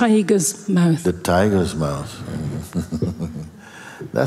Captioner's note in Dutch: gelach